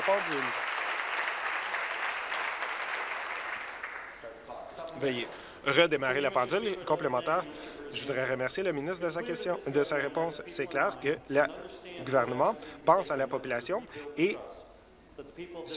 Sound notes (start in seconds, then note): 0.0 applause